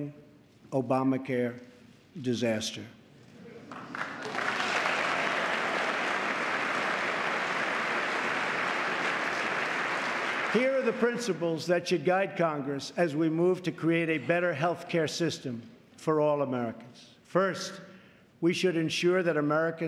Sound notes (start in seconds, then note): 5.3 applause